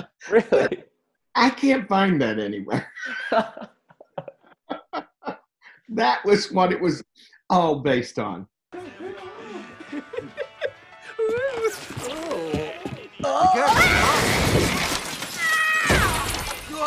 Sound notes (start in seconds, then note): 2.7 both laugh; 8.7 upbeat music; 9.0 Ma laughing; 15.1 screams; 15.5 window glass shattering